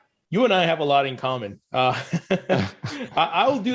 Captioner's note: laughs